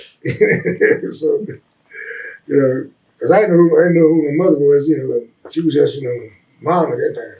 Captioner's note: laughs